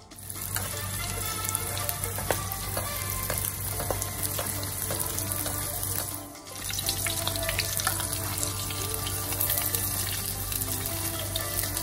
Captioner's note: cooking sound